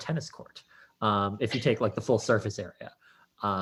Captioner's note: laughs